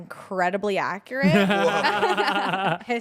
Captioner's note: everyone laughs